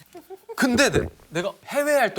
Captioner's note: gulp